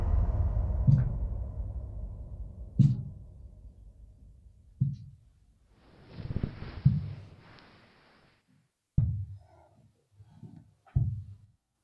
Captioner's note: footsteps